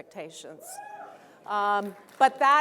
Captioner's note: cheer